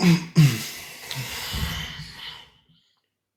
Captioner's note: clears throat